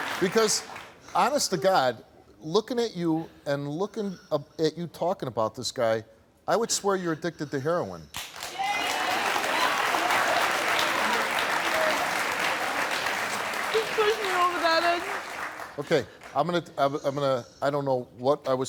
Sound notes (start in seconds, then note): 8.2 audience applauding